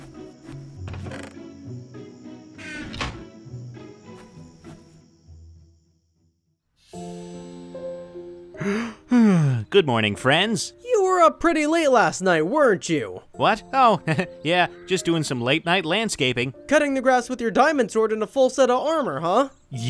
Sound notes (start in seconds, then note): 8.6 yawns